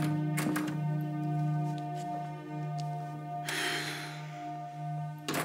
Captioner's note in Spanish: sonido al abrir la puerta